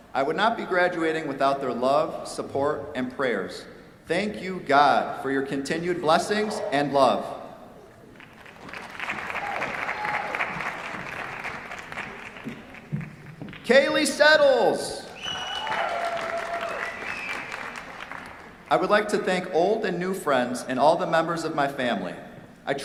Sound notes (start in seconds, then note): 8.1 applause; 15.1 cheers, applause